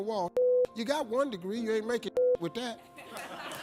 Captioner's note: beep; audience laughing